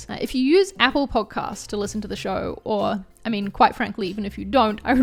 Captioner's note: none